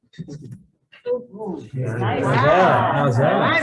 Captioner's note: all chattering